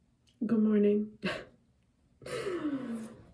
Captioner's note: laughs